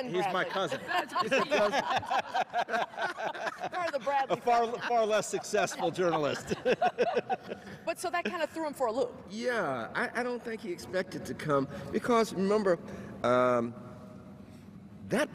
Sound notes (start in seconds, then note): 6.6 all laughs